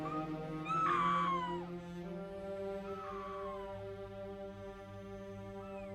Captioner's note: Cathy screaming faintly